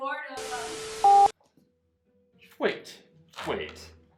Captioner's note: static hissing; beep